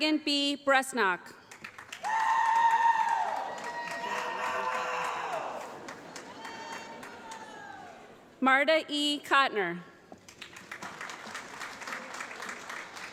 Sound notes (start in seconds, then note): 1.4 applause; 10.2 applause